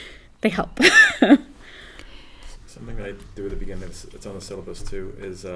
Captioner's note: laugh